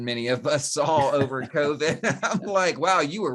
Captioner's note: both laugh